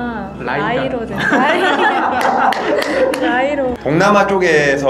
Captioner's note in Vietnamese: 웃음; Cười